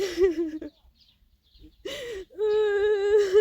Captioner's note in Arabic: ضحك